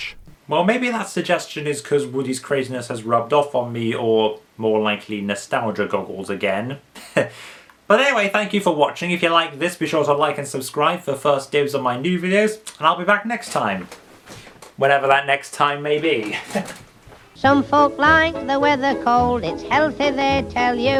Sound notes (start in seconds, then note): 7.0 chuckles